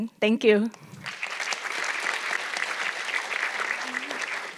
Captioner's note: audience clapping